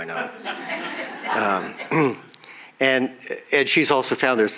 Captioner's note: audience chuckles